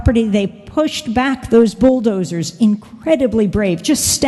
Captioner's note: none